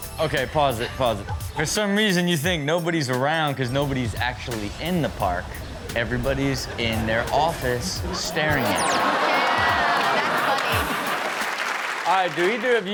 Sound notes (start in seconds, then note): 8.7 audience laughs; 11.3 clapping